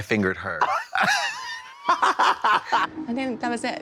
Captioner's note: blonde Women hee-haw